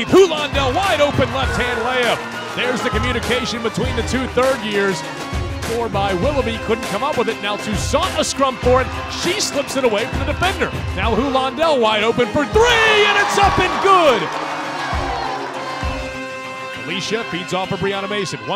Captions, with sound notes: Huland El, wide open, left hand layup. There's the communication between the two third years. --four by Willoughby, couldn't come up with it. Now, Toussaint a scrum for it. She slips it away from the defender. Now, Huland El wide open for three and its up good. [CROWD CHEERING] - Felicia feeds off of Breyana Mason.